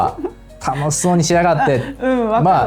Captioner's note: laughs